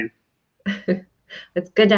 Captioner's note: chuckles